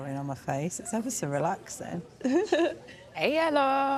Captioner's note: laughter